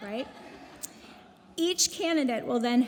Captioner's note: audience laughing